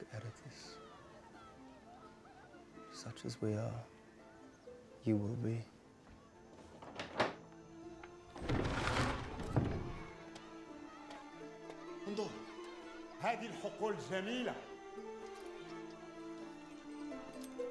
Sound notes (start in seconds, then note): 0.0 balian speaking in foreign language; 8.0 door opens; 11.8 speaking in arabic